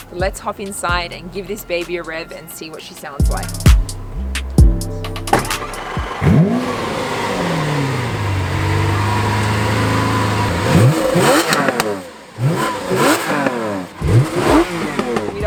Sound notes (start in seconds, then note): 5.3 starts the engine; 7.9 vvvrrrRRRRROOOOOOOOOOMMMMMM!; 12.4 pops and crackles too; 13.9 more revving